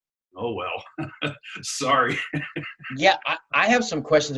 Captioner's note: laughs